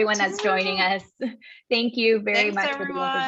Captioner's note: laugh